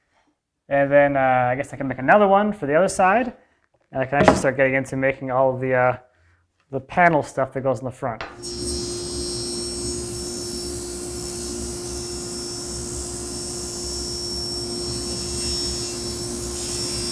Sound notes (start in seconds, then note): 8.7 driller whirring